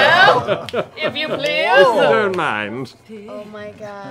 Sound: laughter

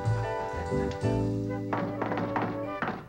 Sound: rhythmic knocking

